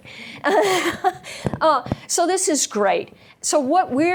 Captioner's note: laughs